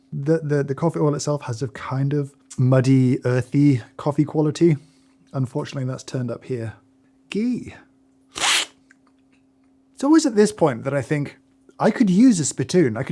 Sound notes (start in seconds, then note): 8.4 slurping